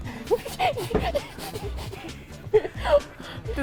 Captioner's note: laughs, out of breath